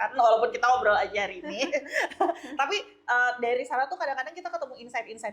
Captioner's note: laughs